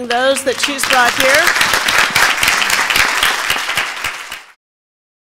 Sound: applauding

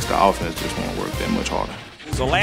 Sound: voiceover

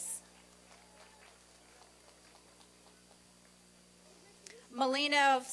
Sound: applause and cheering

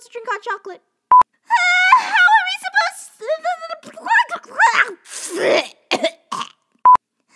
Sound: gag

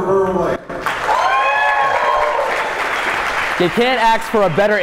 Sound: audience cheering

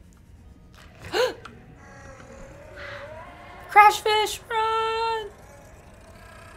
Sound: gasps

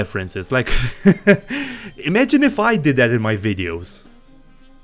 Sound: laughs sarcastically

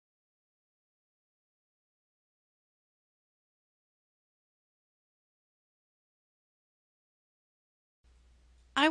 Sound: silence

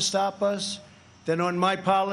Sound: none

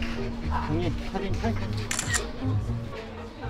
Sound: photo click

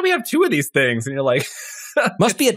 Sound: laugh

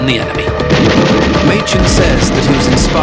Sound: suspenseful music; gun roaring

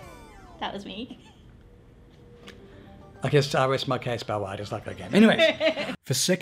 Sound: laughs

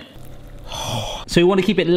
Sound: exhaling

